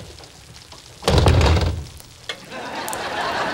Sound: door banging; audience laughing

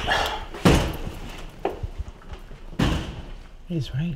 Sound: door Slams Open and Shut

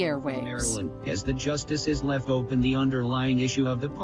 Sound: computerized voice

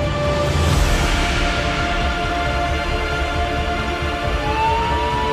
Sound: ambulance sirens

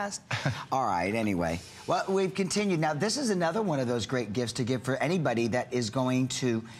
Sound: laughter

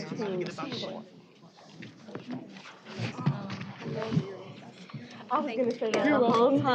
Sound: off-mic chatter

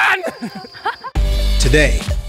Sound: people laughing

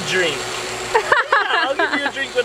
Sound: laughter

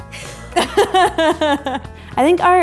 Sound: laughing

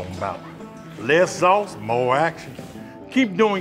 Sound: southern accent

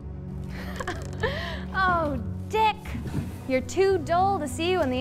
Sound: laughs

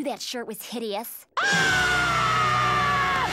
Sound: screaming

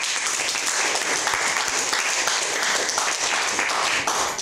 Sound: audience applauding

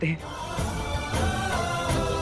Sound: vocalisation

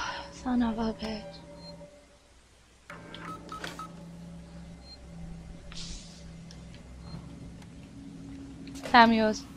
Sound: sighs

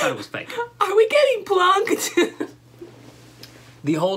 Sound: laughter

